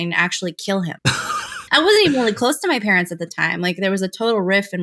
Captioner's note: laughter